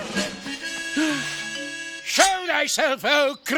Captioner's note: gasping